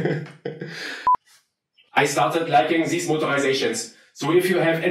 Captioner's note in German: mit deutschem Akzent